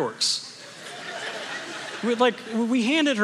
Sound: congregation laughing

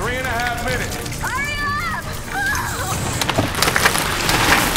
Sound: screams

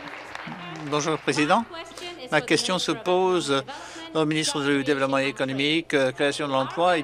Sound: some Applause

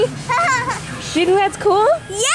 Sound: laughs

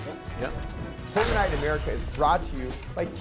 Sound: explosion

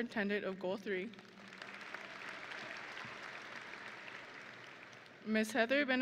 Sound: audience and graduates applauding

